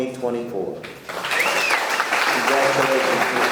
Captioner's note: audience clapping